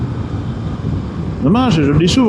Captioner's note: engine